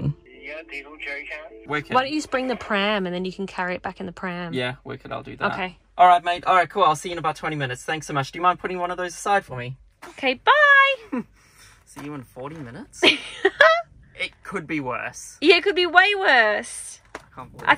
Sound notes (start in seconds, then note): 13.0 laughing